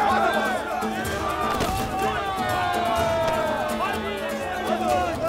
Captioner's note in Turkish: Bağrışma sesleri